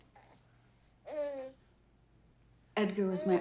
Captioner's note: baby coos